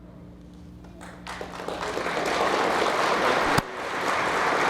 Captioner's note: people clapping